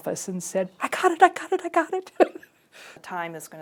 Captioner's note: laughs